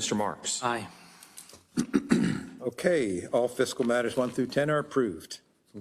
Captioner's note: cough